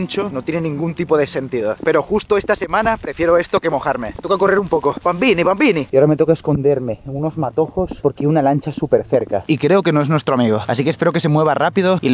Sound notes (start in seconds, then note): 5.1 more "Italian" noises